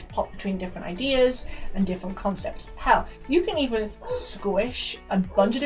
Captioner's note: dogs start barking off screen